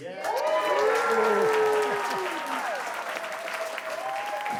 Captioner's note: crowd cheering